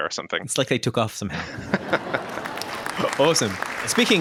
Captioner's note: canned laughter and applause